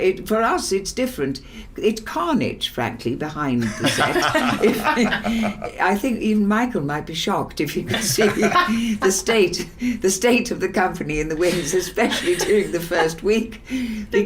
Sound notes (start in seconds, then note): 3.6 Kate, Kezrena, Michael and Philips laughing